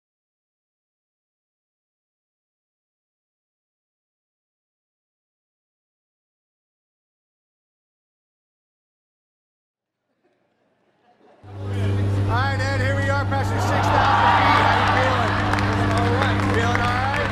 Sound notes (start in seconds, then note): 10.1 audience laughing